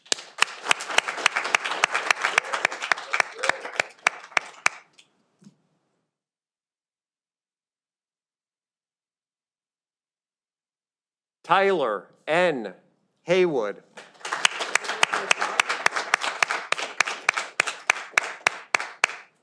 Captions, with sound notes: (audience applauding) Tyler N. Haywood. (audience applauding)